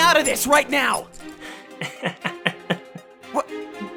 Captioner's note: giggle